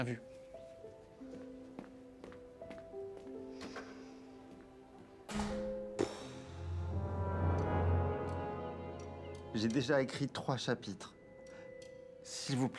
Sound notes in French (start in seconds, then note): 5.3 fermeture de porte; 7.4 soupir